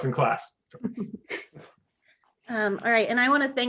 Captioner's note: laughing